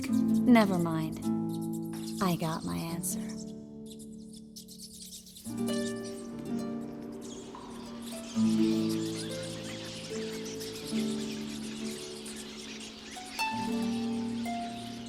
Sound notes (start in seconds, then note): 5.4 rats squeaking; 8.2 squeaking grows louder; 13.6 loud squeaking continues